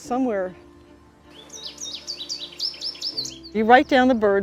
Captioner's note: bird chirping